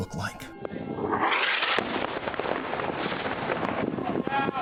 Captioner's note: blast erupts